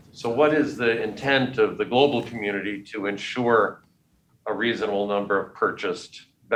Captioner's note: none